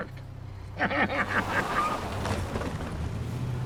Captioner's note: laughing; tires screech